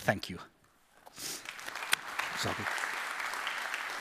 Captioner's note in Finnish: Applause